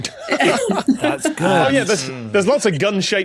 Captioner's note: laugh